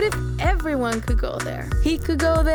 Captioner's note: none